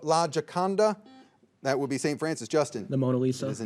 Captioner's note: signal beeps